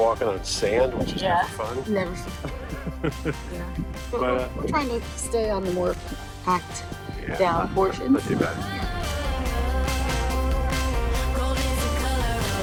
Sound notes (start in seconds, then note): 2.2 laughs; 11.1 upbeat music